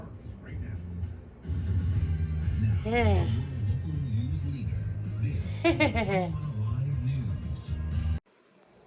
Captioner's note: Caprice giggles